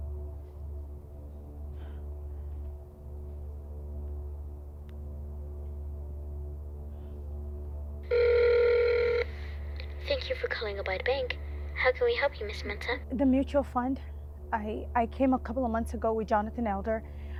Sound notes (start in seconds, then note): 3.1 dramatic music continues; 8.0 phone ringing